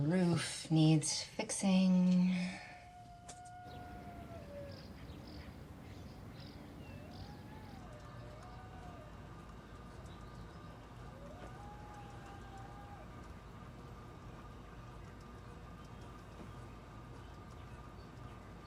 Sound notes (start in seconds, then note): 2.5 coyote howling in distance; 8.2 howling continues